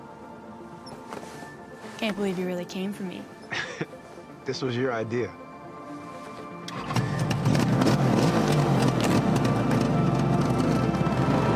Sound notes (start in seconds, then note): 3.4 chuckles; 6.7 motorcycle revving